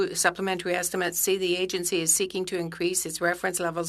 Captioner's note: speaking French